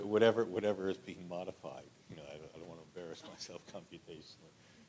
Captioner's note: laughter